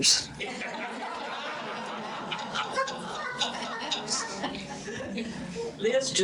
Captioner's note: audience laughter